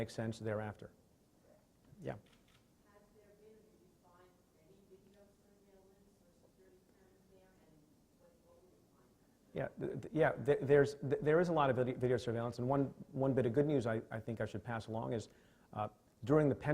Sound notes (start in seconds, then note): 11.0 stutters